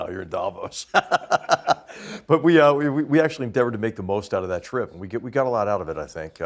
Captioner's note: laugh